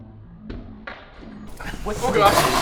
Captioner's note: thuds